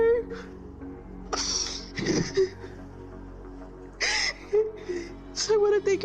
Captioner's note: sobs